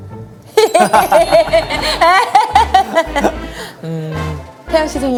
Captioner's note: hahahahahahaha